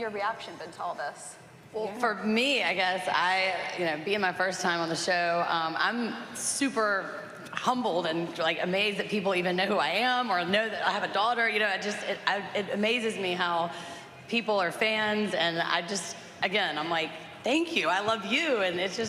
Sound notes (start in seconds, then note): none